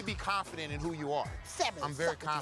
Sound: lisp

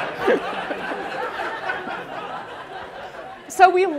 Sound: laughter

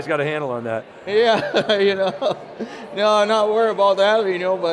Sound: laughing

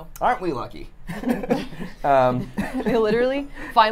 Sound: laugh

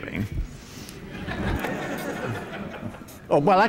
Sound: laughter

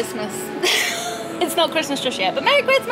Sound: laughing

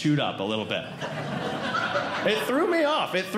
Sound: audience Laughing

